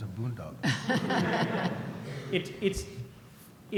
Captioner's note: laughter